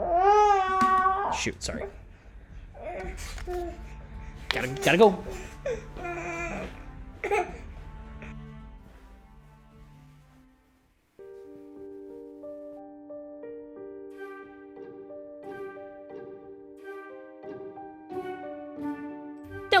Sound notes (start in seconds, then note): 1.2 baby crying; 11.2 mysterious music